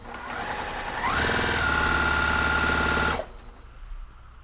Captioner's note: sewing machine whirring